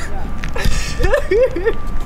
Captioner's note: laughing